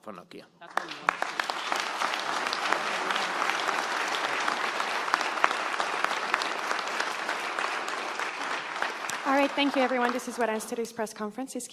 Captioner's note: applause